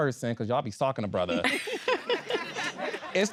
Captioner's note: all laughing